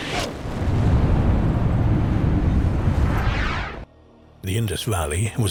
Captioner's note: atmosphere rumbling